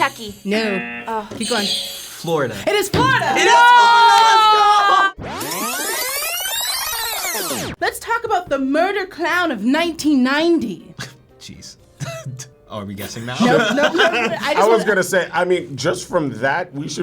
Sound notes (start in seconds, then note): 0.0 buzzer buzzes; 0.0 button chiming; 4.2 video rewinds; 13.0 laughs